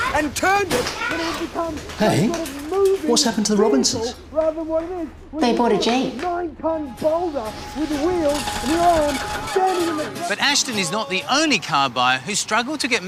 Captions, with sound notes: Hey, what's happened to the Robinsons? (Muffled shouting) They bought a Jeep. But Ashton is not the only car buyer who's struggled to get manufacturers